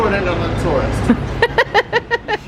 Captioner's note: laughing